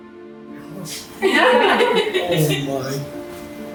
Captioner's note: laughing